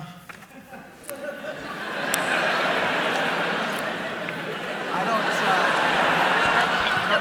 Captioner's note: laughter